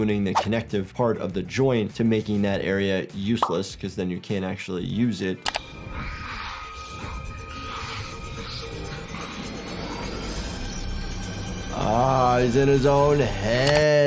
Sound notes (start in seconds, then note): 5.5 tense music crescendos; 5.6 ominous hissing